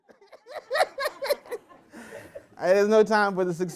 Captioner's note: laughter